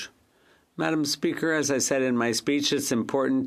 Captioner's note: speaking French